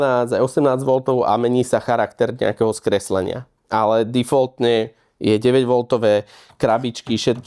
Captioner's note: distortion